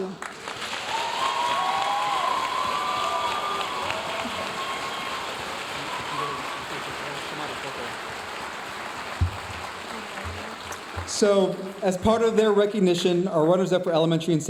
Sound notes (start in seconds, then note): 0.2 audience cheering and applauding; 5.8 audience applauding; 5.8 speaking faintly